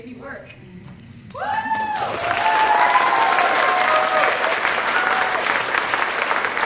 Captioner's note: applause